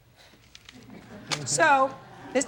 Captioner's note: audience laughing